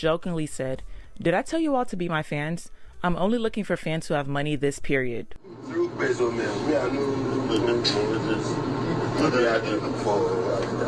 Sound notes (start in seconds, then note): 5.5 crowd cheering